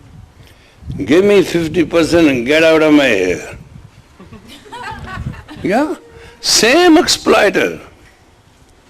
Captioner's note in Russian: смех